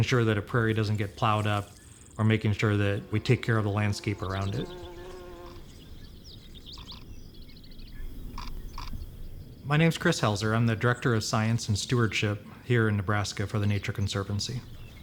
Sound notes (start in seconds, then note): 4.6 buzzing; 6.1 birds chirping